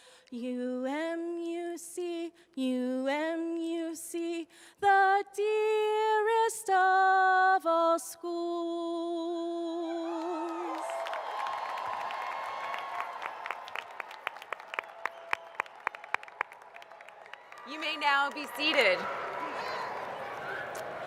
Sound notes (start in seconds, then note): 11.7 applause